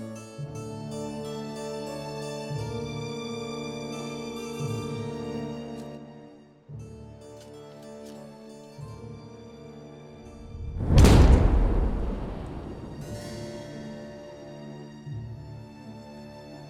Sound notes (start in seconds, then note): 10.8 shovel striking; 13.0 soft music